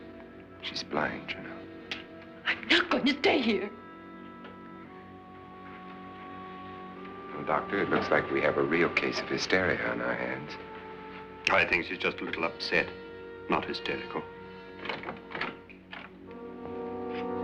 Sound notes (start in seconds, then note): 14.7 door opening